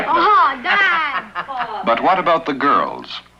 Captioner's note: laughing